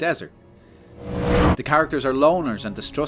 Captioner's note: ROARING truck